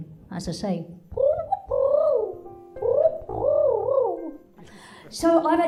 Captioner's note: makes pigeon cooing sounds